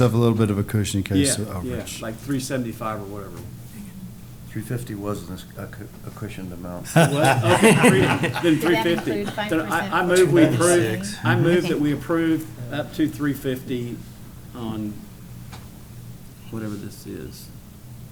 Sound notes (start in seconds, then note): 6.8 laughter